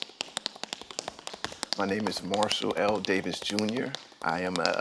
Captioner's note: sounds of tap dancing